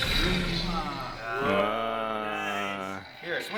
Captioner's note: ohs and Ahs